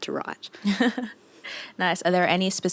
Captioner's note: chuckles